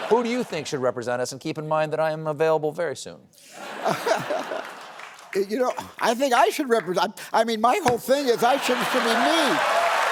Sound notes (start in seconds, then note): 3.7 laughs; 8.5 cheers and applause